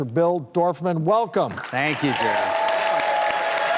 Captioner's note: cheering